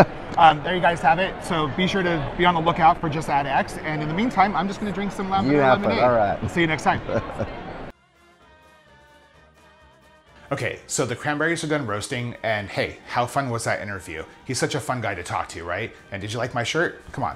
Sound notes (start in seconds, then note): 7.3 laughing